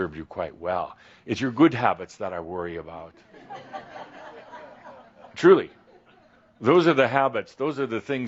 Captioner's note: laughter